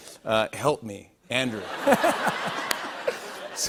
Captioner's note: laughter